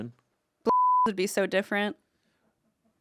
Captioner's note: beep